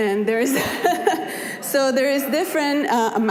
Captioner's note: laughing